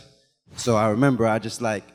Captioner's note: animation whooshes